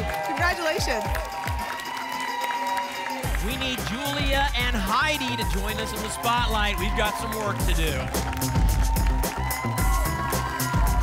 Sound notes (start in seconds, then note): 1.9 applause and cheering; 9.0 applause and cheering cont